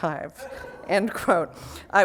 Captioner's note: laughter